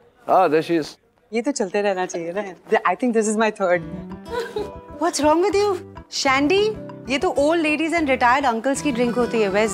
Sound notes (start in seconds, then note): 4.2 Vandy laughs